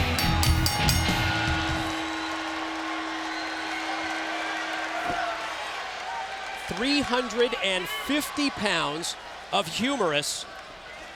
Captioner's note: bell ringing